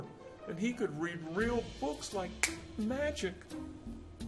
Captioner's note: finger snapping